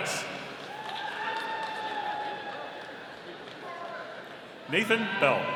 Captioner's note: audience cheering